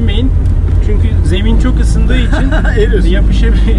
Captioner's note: laughing